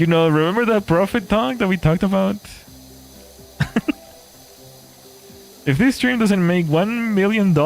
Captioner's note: laughter